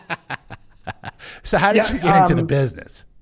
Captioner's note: laughing